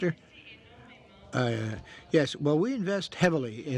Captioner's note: speaking French